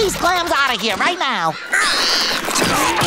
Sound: screeching

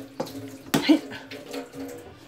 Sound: making determined sound

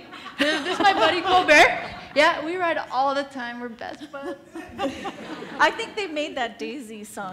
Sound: laughs; laughs

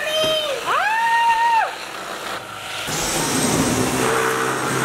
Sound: shrieking; vacuum whirring; vacuum roaring

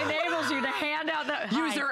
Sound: laughter

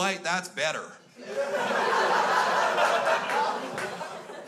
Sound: crowd laughs

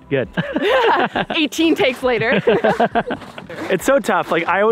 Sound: laughs

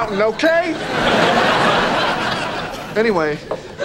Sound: audience laughing

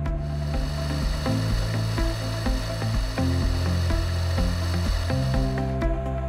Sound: milling noise

